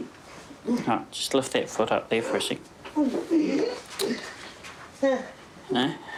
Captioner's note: grunts